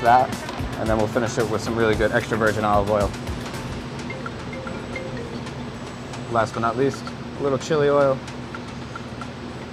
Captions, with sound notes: So that's that. Then we'll finish it with some good extra virgin olive oil. [mobile phone ringing] Last but not least little chili oil.